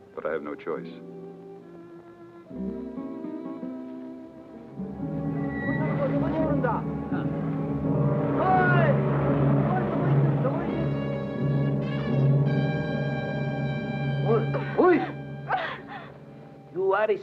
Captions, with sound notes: but I have no choice. (gentle music) (Japanese men talking excitedly) (dramatic music) (Pilar cries out)